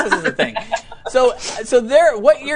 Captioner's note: laughs